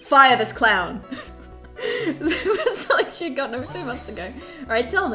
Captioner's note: laughs